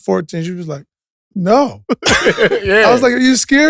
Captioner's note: laugh